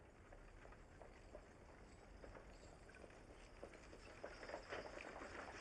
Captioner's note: horse and cart rattling